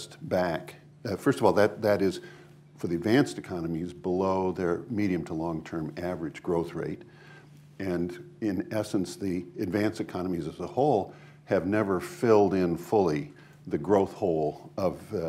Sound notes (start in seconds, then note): none